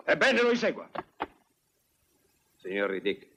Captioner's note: stamps floor